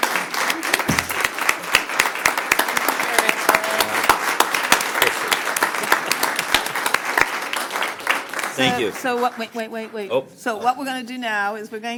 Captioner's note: applause